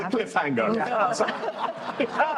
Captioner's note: laughter